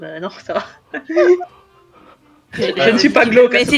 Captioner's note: laugh